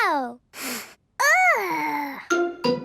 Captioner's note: sniffs